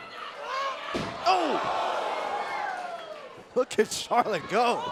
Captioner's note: crowd cheering